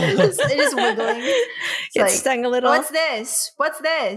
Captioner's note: laughter